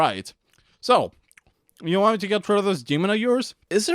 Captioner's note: eating sounds